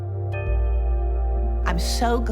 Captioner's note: bell dinging